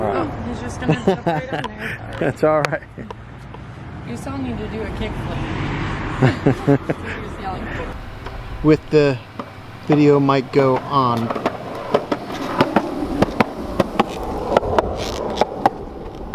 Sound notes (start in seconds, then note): 6.2 laughing; 10.6 skateboard wheels clicking